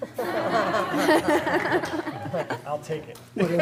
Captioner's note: laughter